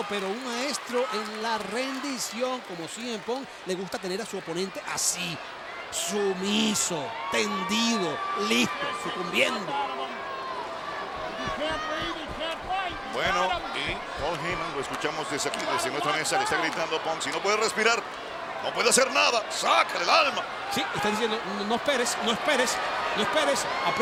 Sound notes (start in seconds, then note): 11.1 applause